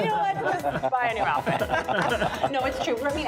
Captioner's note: laughter